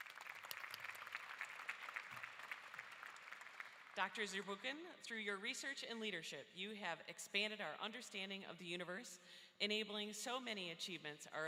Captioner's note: applause